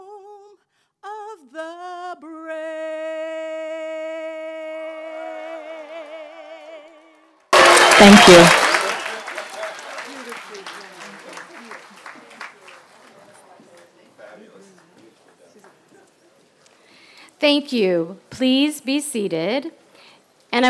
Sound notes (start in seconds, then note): 5.4 applause; 9.4 applause